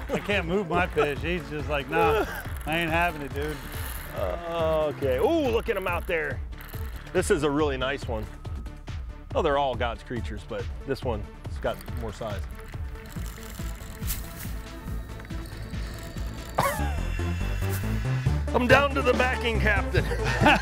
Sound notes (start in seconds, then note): 12.9 reel spinning